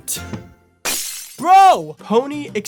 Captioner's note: glass smashes